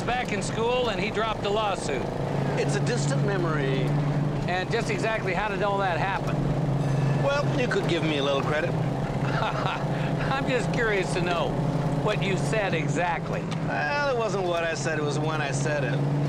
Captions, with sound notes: - So, Lucia's back in school and he dropped the lawsuit. - It's a distant memory. - And just exactly how did all that happen? - Well, you could give me a little credit. - (laughing) I'm just curious to know what you said exactly. - Well, it wasn't what I said, it was when I said it.